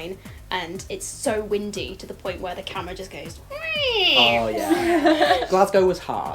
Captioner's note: falling noise